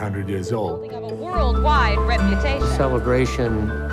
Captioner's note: ambient sound of news anchors